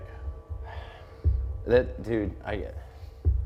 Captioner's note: sighs